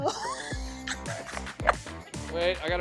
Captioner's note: both laughing